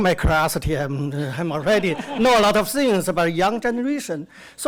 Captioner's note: audience laughter; laughs